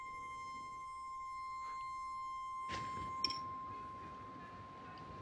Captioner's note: piercing high-pitched tone